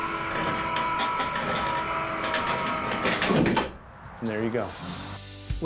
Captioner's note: motor whirring